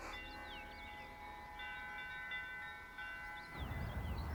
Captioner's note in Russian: звучит звон колоколов